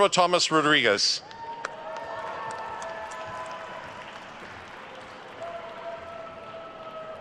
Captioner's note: attendees cheering and applauding